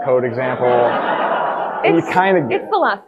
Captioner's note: audience laughing